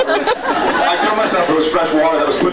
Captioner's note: laughs